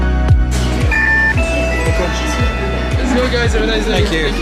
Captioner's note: machine chimes